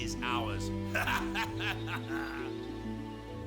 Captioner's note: laughing